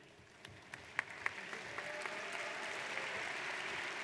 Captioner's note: audience applauds